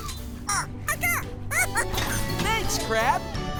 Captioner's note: squeaking